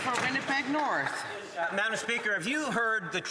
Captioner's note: some Applause